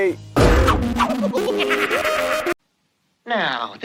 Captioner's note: evil laugh